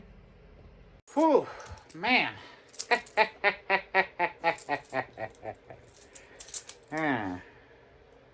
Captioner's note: laughs